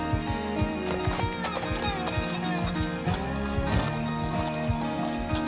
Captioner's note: hooves clomping